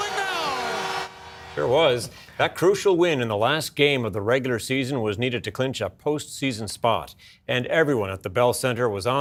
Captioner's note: cheers and applause